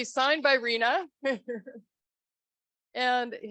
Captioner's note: laughs